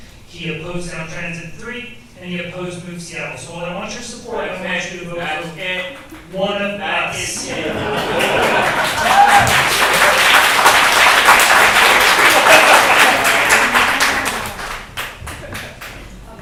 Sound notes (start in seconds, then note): 7.4 audience cheers and applauds